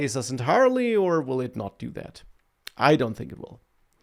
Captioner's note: smacks lips